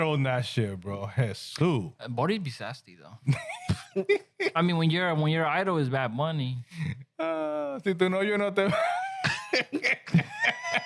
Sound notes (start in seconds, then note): 3.3 laughing; 8.6 laughing